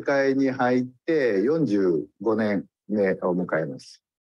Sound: speaks in Japanese

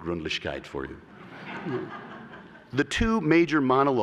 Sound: laughter

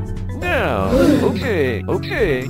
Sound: bfdi gasp sound

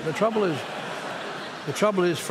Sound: laughter

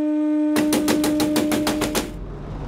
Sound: door thuds

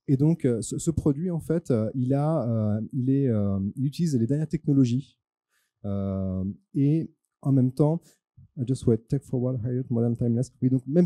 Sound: translating into french

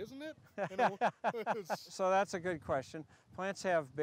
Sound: laughs

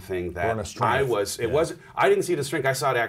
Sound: murmurs

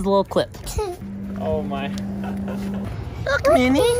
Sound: laughing

